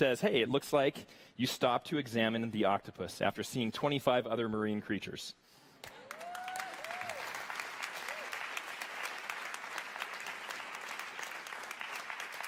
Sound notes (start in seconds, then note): 6.0 audience cheers